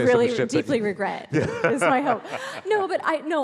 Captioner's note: laughs